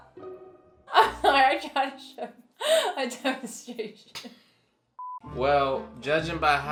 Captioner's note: laughs